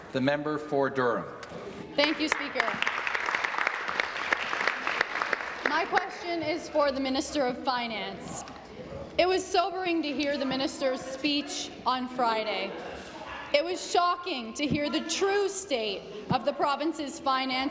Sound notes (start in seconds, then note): 2.0 applause